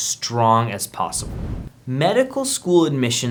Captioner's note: air whooshing